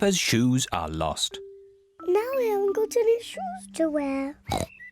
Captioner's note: oinks